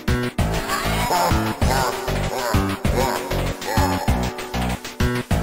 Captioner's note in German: Dämonisches Gelächter